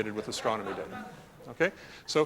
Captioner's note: laughter